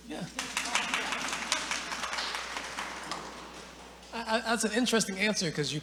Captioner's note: audience applauding